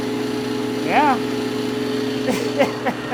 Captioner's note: chuckles